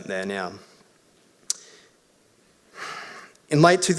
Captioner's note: sighs